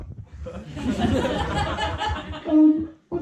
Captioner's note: bursting laughter